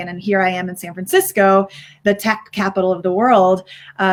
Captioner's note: none